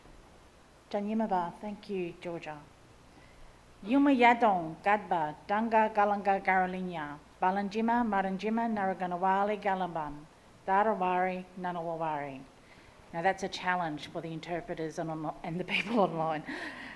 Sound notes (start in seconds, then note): 1.0 speaks in Ngunnawal language